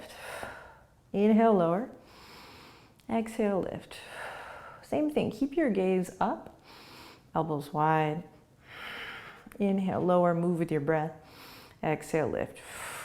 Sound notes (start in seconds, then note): 0.2 exhaling; 1.9 inhaling; 3.9 exhaling